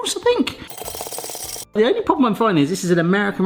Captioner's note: whisk beating speedily